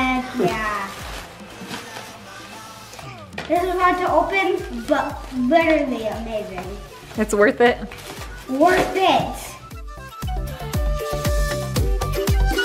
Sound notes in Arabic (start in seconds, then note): 0.2 حفيف الساران; 9.8 موسيقى مبهجة